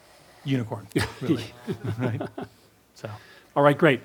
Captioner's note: laughs